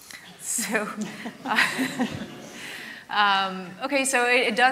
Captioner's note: laughter